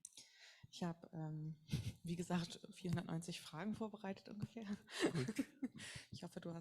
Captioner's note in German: beide lachen